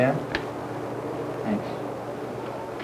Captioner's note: click